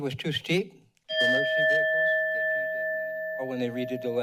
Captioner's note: bell rings